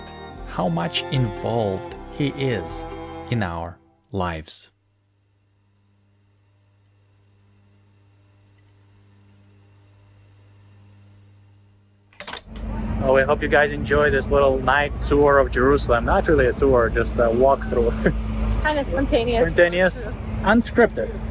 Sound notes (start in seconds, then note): 17.5 chuckles